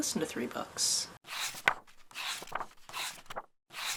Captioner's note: pages turning